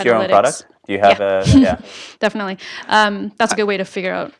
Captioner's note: laugh